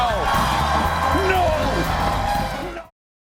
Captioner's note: cheers and applause